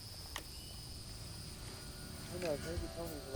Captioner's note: tape player clicks; radio Announcer